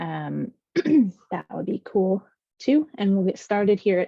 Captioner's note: clears throat